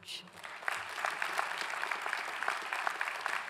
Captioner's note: clapping